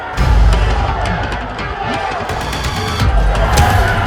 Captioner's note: group cheering; upbeat music